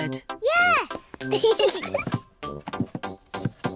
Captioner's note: both giggle